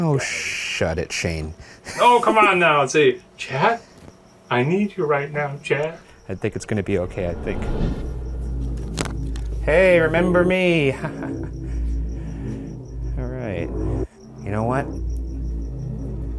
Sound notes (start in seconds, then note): 11.0 chuckles